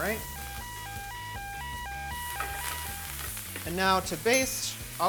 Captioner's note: sirens wailing